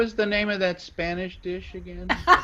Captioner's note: laughter